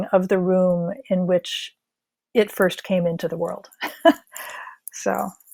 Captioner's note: chuckles